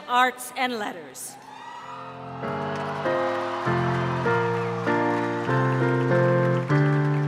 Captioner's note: cheering